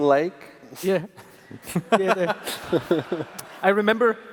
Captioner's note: laughter